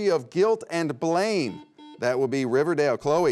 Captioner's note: buzzer beeps